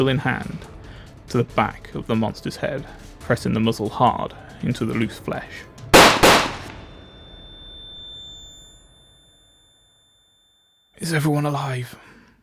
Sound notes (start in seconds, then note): 5.9 gunshots